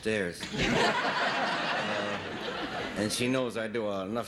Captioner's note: audience laughing